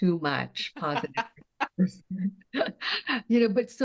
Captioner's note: both laughing